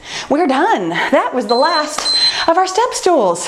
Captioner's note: timer beeping